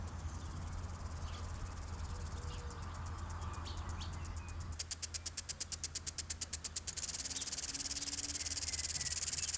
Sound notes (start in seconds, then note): 0.3 sprinkler sputtering faintly; 4.7 sprinkler sputtering